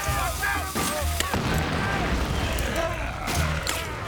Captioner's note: growling